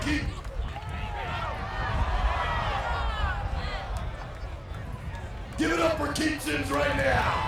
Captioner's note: applause